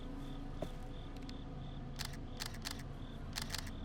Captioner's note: camera shutter clicking